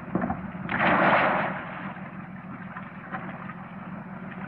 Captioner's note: splashing